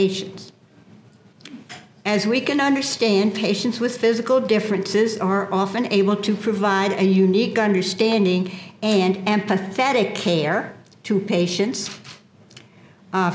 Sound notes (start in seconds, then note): none